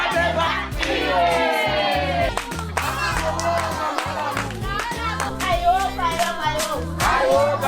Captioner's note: applause